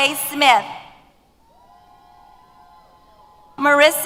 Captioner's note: cheers